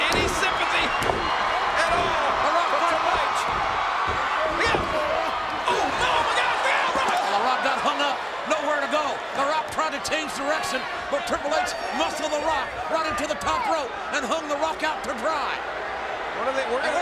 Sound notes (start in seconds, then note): 4.2 crowd cheering